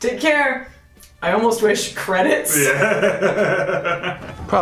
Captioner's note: laughs